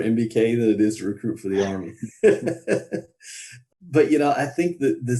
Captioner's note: laughs